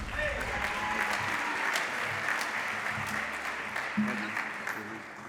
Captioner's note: applause